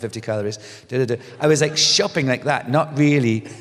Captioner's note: laughter